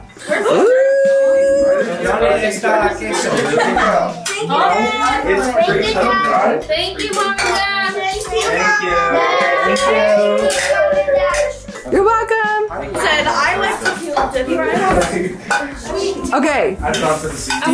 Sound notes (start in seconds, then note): 1.6 family chatters excitedly